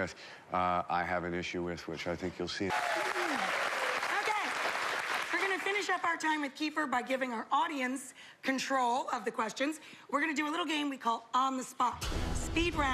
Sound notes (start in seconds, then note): 4.3 cheers and applause